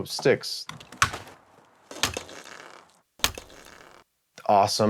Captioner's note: stick breaking